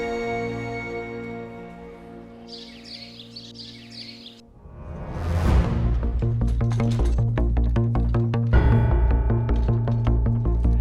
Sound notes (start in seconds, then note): 2.0 birds chirping; 5.1 tense music playing